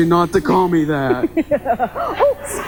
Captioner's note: laughing nervously